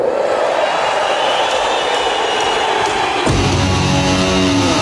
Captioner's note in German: Beifall